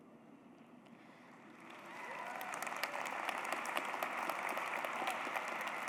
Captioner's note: cheers, applause